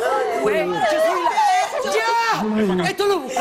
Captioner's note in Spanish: lloran